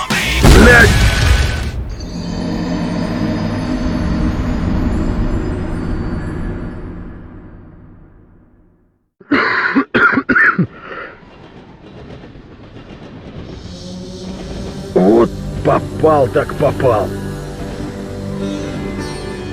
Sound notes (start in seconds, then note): 9.2 coughs in pain